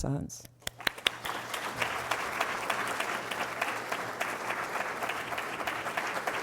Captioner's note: applause